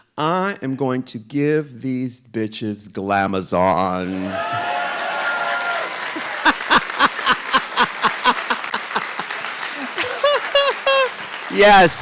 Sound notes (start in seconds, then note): 4.1 audience applauding; 6.1 RuPaul laughs; 8.4 audience applauding